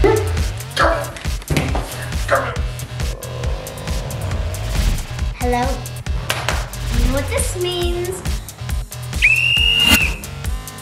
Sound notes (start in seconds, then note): 0.1 grunting; 1.9 groaning; 6.2 clapping; 9.1 blowing a whistle